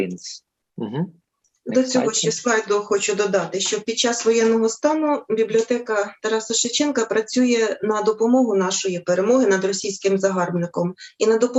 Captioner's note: foreign Language